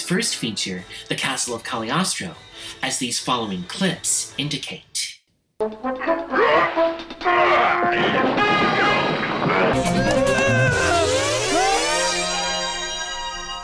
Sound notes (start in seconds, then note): 6.0 Lucifer shouting, grunting; 9.9 Lupin screams